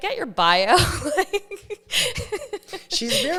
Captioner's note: laughs